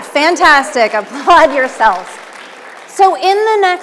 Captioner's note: audience applauding